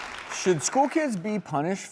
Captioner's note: applause